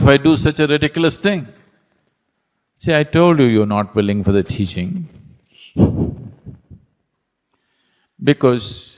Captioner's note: laughs